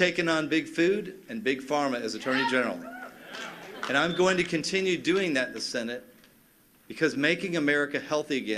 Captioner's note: cheers and applause